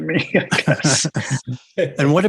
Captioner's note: laughter